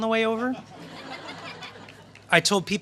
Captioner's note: laughter